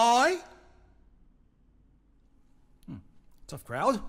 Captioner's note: silence